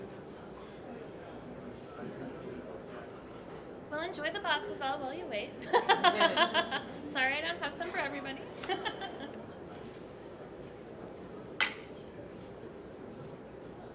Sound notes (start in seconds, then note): 5.7 laughing